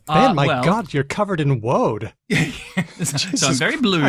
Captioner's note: laughs